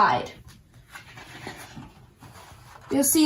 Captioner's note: papers rustling